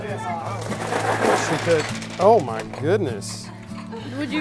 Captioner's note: crash; laughter